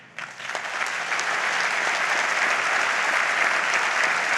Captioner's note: audience applauds